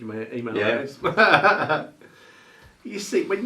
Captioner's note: presenters laughing